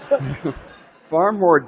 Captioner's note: laughter